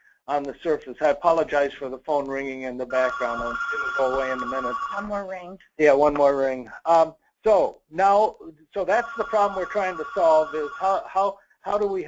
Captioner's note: phone ringing